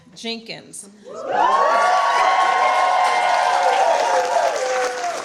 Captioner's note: cheers, applause